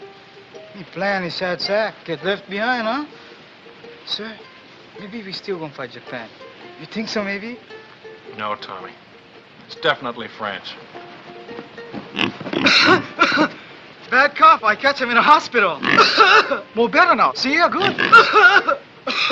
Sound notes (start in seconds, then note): 12.1 pig grunts; 12.5 coughs; 15.8 pig grunts, tommy coughs; 17.8 pig grunts, tommy coughs